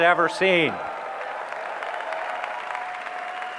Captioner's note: applause